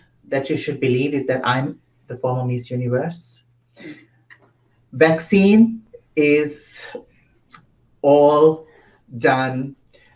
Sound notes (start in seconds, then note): 3.9 chuckles